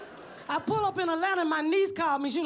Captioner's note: audience laughs; pat